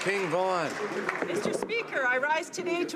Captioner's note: some Applause